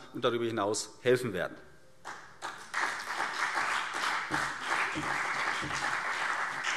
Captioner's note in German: Beifall CDU und BÜNDNIS 90/DIE GRÜNEN